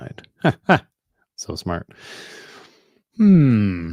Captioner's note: chuckles